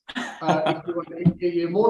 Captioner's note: chuckles